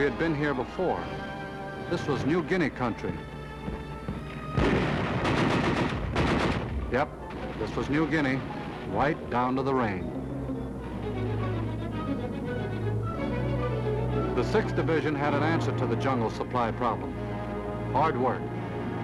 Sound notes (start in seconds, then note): 4.4 guns firing; 18.8 dramatic music